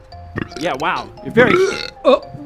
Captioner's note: burp